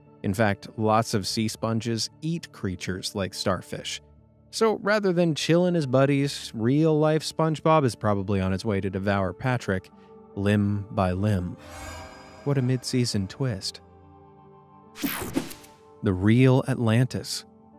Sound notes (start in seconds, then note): 15.0 image whooshing